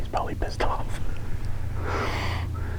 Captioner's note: laughing